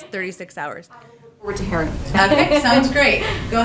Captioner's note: laughter